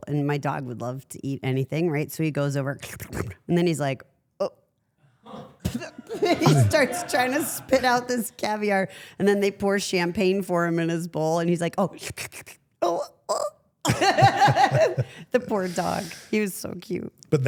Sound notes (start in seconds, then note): 13.9 everyone laughs